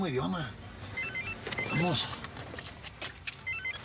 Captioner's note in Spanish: suena celular